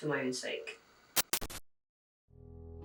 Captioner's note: static glitch